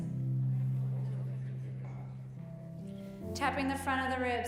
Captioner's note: group speaking quietly